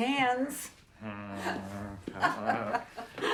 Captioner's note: marilyn laughs